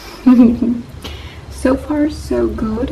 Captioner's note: laughs